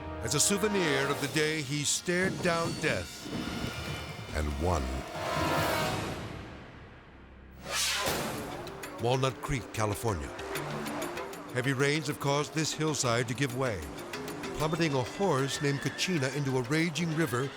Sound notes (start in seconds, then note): 5.0 edgy dramatic music; 7.6 screen exploding; 10.4 suspenseful music